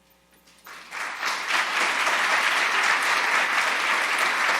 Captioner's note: audience applauding